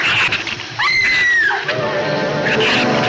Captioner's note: Ann screams; dramatic orchestral music